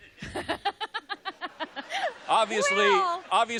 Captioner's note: laughs